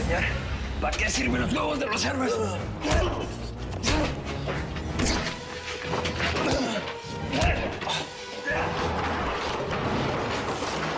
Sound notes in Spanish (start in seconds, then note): 4.9 Ruido de puñetazos